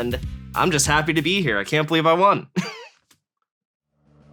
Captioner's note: chuckles